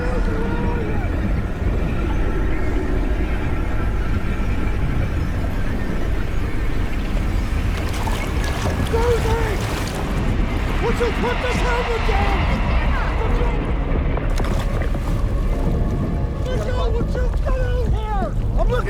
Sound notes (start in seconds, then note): 1.9 dark eerie music; 8.1 water lightly splashing; 14.2 bubbles gurgling; 14.8 water splashing